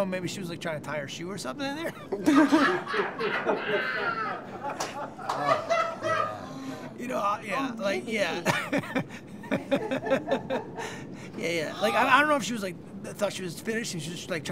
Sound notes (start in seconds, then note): 1.8 laughter; 8.1 laughs